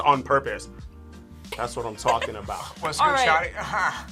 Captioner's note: React laughs